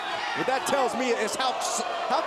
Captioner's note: crowd chatter